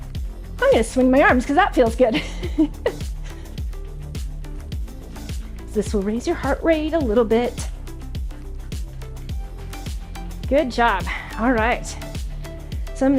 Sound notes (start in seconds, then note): 2.1 laughs; 2.4 upbeat music